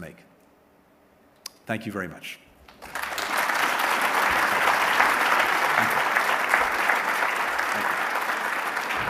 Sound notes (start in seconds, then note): 6.5 applause